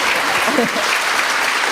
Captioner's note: clapping